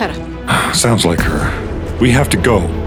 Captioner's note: sighs